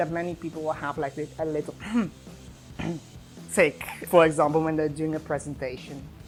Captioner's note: scrapes throat